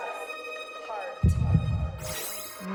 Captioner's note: echoes; electronic trill